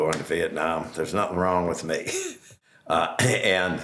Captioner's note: chuckles